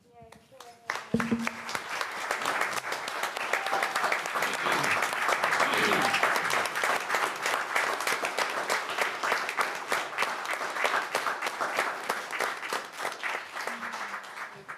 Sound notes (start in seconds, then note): 0.0 applause